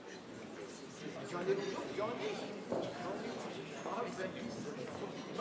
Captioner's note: people murmur